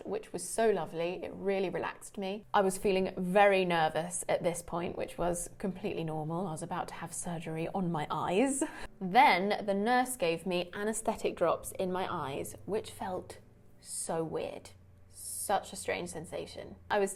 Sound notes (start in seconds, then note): 8.6 chuckles